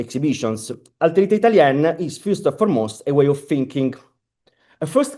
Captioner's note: italian